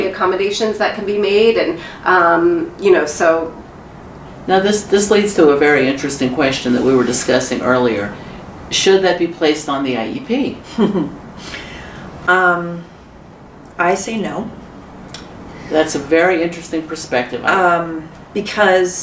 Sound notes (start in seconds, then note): 10.6 chuckle